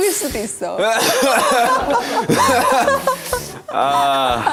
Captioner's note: cough...!